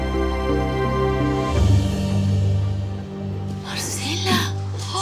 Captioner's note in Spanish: Gritos